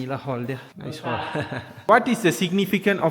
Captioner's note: laugh